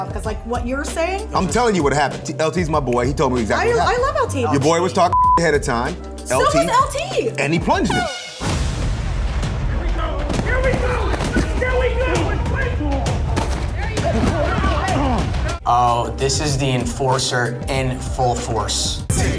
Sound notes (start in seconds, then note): 5.1 beep; 7.9 horn beeping; 9.1 intense music; 11.7 man shouting; 13.9 men grunting; 19.1 intense music